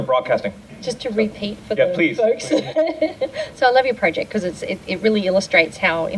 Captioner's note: laughing